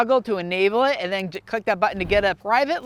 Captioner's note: air whooshing